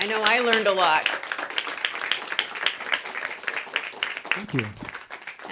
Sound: applause

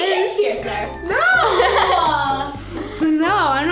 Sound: laughing

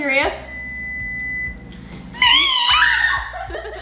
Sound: microwave beeps; screams; imitates beep

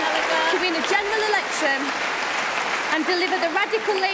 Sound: cheering & Applause

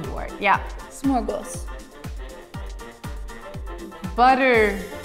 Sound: speaking in a foreign language

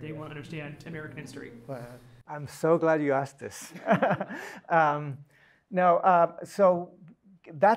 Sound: laugh

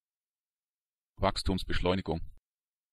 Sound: fast Pronunciation

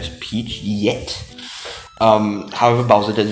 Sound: inhales

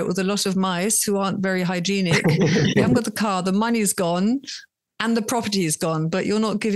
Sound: everyone laughs

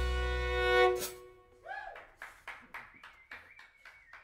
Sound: applause

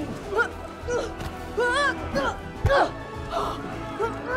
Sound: Angela grunting

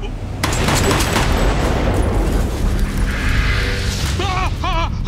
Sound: gun fires repeatedly; man screams

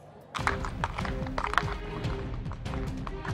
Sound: chattering

